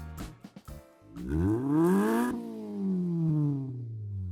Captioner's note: engine revs